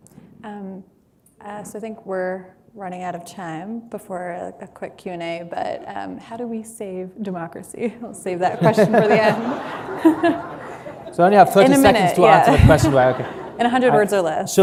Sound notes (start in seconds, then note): 8.5 laughter